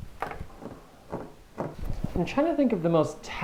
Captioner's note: fingers drum